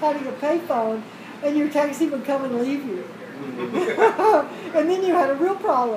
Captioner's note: laugh